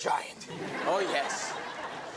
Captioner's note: audience laughing